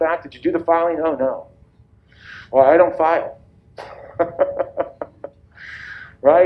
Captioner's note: laughs